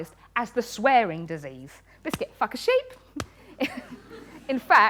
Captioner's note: laughs